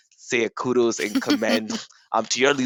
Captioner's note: laughs